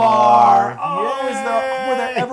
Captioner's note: laugh